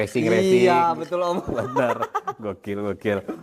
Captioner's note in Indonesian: tertawa